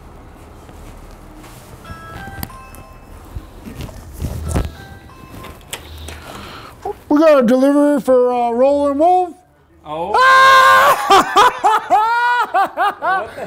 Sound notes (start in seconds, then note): 1.8 door bell ringing; 10.2 laughing